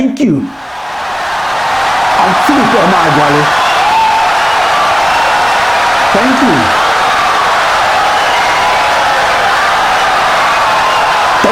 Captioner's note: wild applause and cheering for 17 seconds